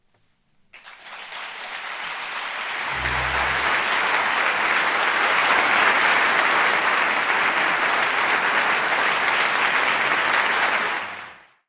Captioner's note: applause